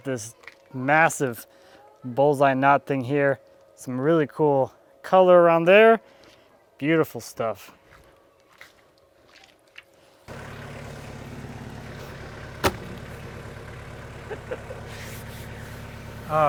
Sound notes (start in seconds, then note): 10.2 engine running calmly; 14.1 laughs